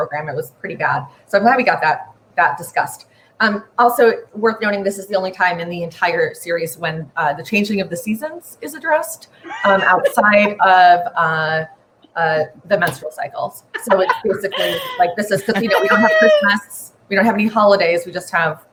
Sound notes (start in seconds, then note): 13.6 laughing; 15.2 laughing and talking over each other